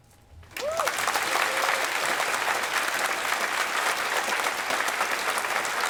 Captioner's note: applause